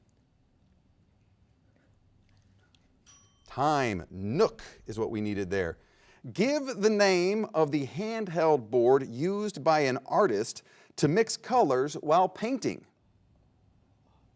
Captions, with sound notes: (bell dings) Time. Nuuk is what we needed there. Give the name of the handheld board used by an artist to mix colors while painting.